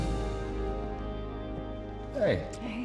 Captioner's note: footsteps